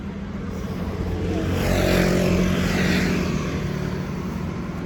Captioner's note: vehicles pass